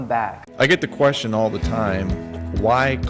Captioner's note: voiceover